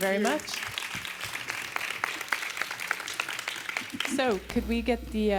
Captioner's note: audience applauding